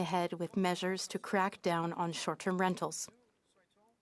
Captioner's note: speaking French